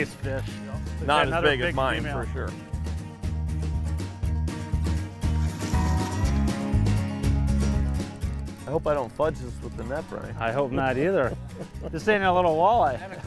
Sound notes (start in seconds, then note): 5.6 splashing